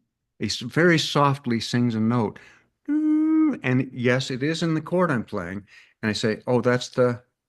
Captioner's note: hums